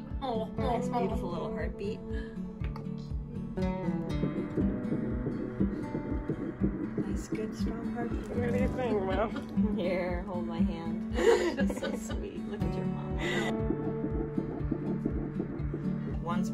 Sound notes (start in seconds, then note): 4.4 muffled heartbeat; 13.8 muffled heartbeat